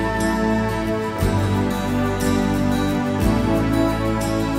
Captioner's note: none